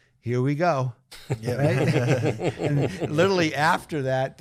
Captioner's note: panelists laughing